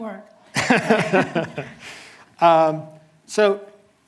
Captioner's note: laughing